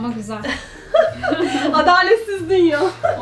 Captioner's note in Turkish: gülüşmeler